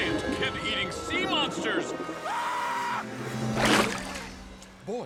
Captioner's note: announcer screams